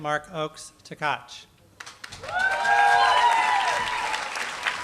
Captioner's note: applause